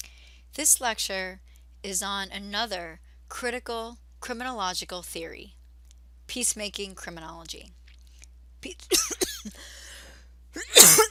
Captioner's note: coughing